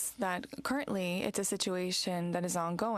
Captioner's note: speaking french